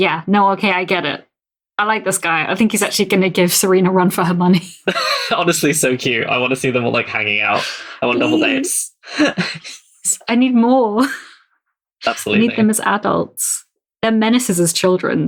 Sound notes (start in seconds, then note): 12.0 laughs